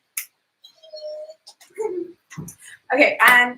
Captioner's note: squeals